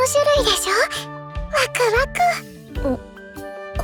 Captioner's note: exciting noises